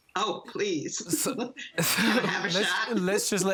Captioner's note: laughs